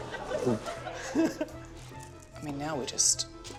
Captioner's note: laughs